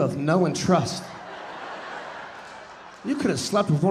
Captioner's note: audience laughing